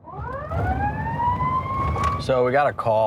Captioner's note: sirens